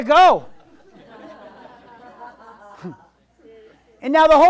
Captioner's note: audience laughs